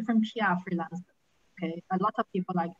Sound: faintly speaking

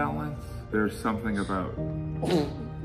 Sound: person sneezes

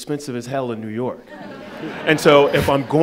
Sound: attendees laughing

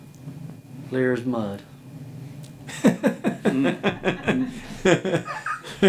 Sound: laughing

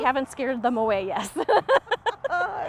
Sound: laughs

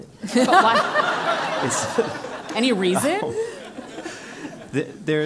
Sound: laugh

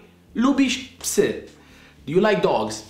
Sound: speaking in Polish

